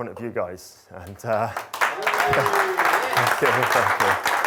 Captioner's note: crowd applauding